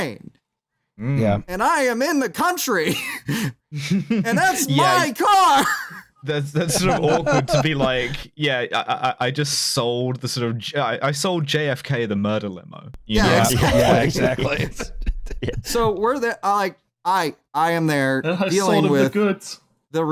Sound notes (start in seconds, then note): 2.0 shouting; 4.0 laughs; 5.1 shouting; 13.2 laughter